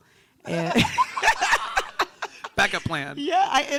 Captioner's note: group laughing